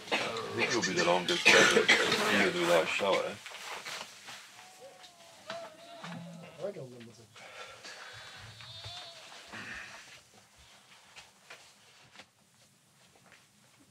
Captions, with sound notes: (in Danish) It could be the long distance.